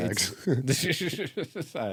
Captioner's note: laughing